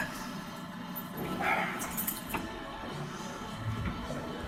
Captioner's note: keys jingle